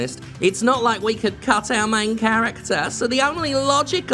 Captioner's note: mocking